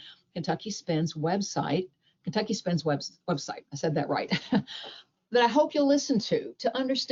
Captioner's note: chuckles